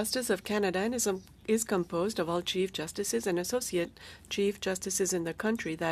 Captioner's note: speaking French